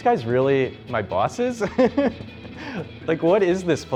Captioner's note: laughter